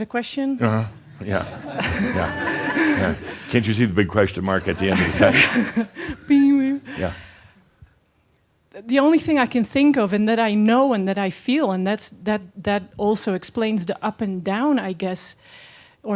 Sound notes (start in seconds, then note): 1.1 some chuckles; 4.8 she chuckles